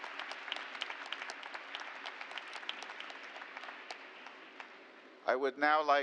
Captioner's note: applause